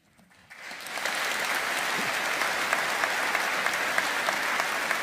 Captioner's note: audience applauding